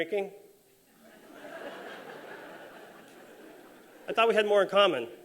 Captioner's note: laughter